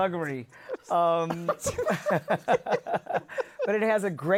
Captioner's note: laughter